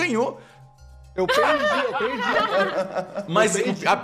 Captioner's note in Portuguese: Risadas